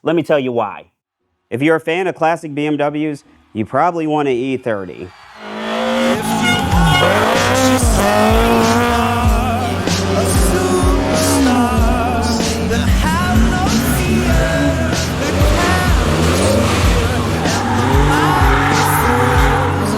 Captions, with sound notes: Let me tell you why. If you're a fan of classic BMWs, you probably want an E30. (engine revving) (upbeat music) (engine revving) (screaming)